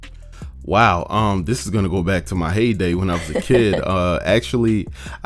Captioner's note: laughs